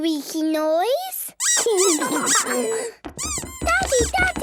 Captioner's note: squeaking